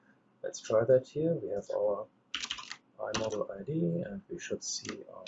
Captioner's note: keyboard clicks